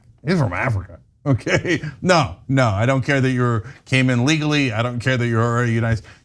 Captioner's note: laugh